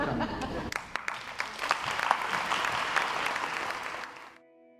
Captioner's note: crowd applauds